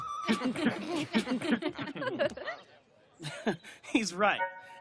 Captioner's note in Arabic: ضحك